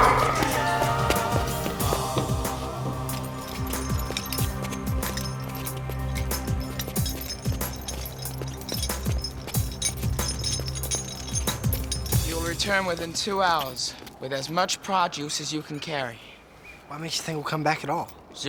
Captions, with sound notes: (door creaks) (chain clinks) - You'll return within two hours with as much Pra-juice as you can carry. - What makes you think I'll come back at all?